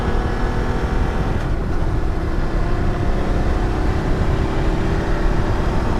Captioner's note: wind whirring